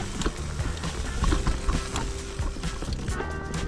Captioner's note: wheels whizzing